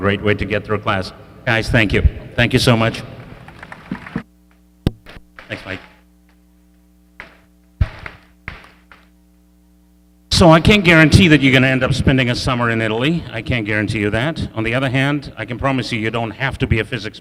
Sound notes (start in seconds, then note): 6.6 audience clapping